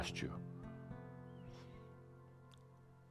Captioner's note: none